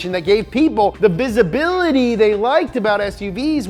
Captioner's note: none